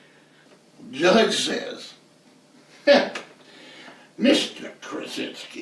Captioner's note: laughs